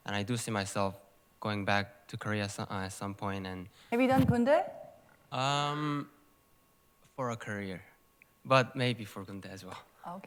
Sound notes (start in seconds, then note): 4.1 korean